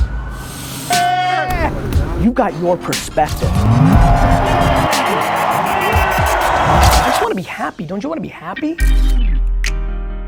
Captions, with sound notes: (upbeat music) You've got your perspective. (audience cheering) I just wanna be happy. Don't you wanna be happy?